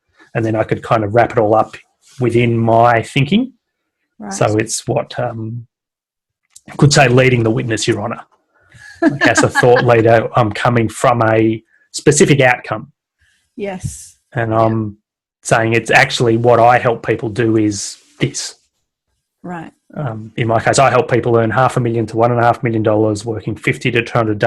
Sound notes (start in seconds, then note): 8.8 laughs